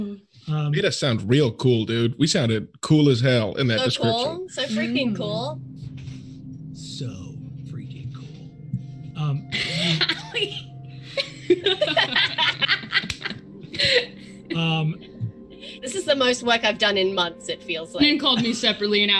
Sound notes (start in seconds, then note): 11.0 group laughs